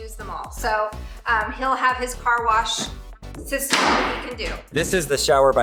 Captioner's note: hammer bangs